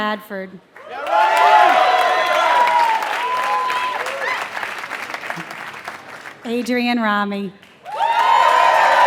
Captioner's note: applause